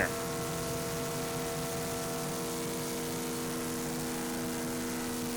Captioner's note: planer engine whirring